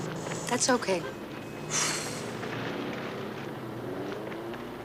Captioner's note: traffic din in background